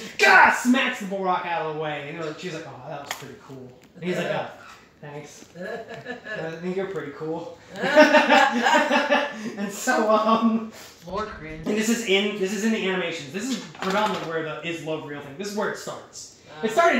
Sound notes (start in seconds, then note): 10.9 laughter